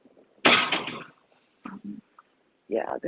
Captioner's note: metal clanks